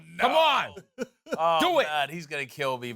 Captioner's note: chuckles